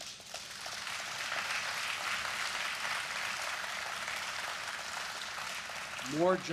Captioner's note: applause